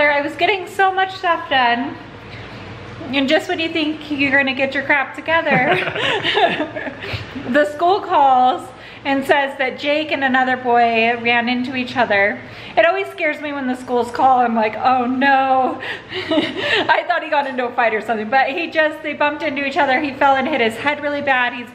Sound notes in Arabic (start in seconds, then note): 16.3 يضحك